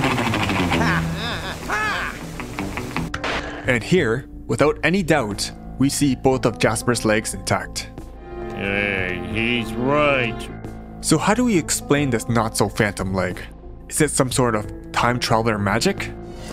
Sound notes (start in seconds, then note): 0.8 grunting